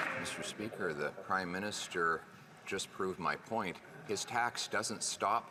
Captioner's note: some Applause